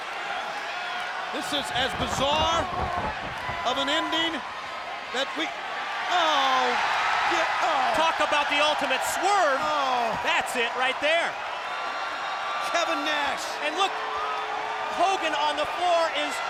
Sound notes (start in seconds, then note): 6.7 audience cheers